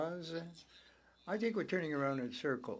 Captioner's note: speaking French